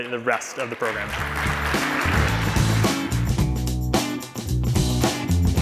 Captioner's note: applause